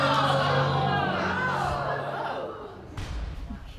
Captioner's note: audience gasping